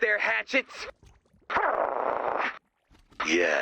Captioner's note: growl